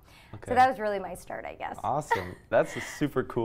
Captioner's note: chuckles